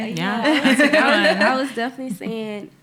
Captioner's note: laughing